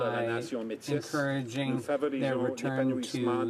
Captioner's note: speaking French